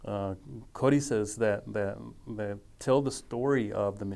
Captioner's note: speaking foreign language